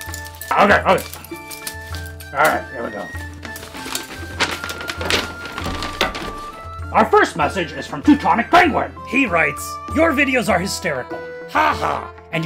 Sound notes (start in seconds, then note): 3.1 scroll rustles